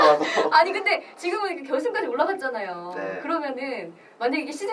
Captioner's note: laughs